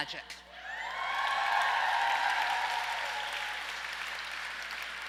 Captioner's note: audience applauds and cheers